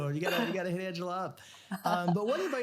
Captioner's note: laughs